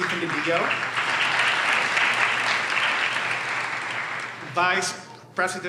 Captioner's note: audience applauds